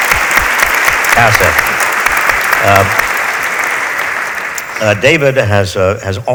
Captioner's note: audience applauds